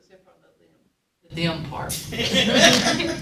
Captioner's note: audience chuckling